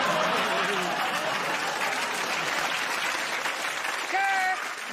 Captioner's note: laughter; applause